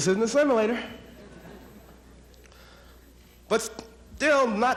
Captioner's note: audience laughs